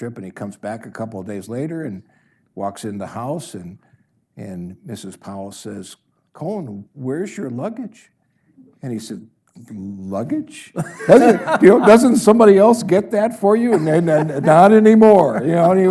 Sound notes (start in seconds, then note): 10.8 audience laughs